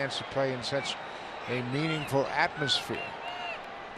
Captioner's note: crowd cheering